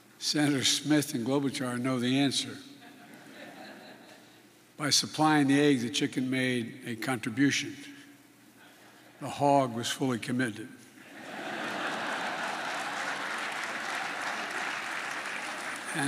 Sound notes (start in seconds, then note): 2.8 laughter; 11.1 laughter and applause